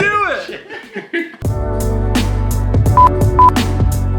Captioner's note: both laughing; upbeat music